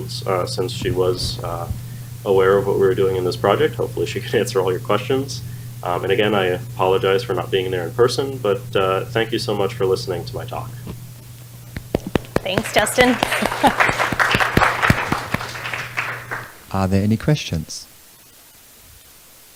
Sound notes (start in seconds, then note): 13.8 audience applauding